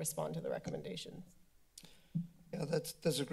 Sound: clicks tongue

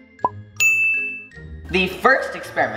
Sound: bell ringing

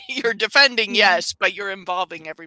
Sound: chuckles

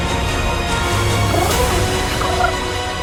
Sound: cooing

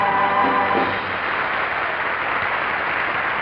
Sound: audience applauding

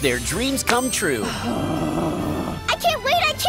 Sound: groaning

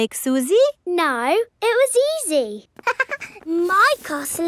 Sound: chuckles

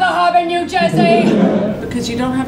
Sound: laughs

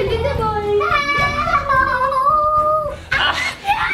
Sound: screaming

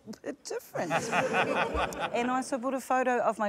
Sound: laughter

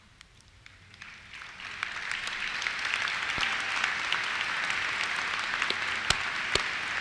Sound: applause

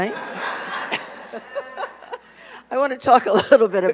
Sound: audience laughs

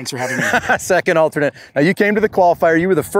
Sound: laughing

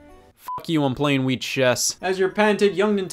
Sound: beep

